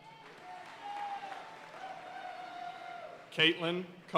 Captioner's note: audience cheering and applauding